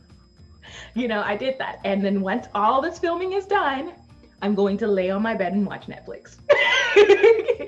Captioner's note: laughs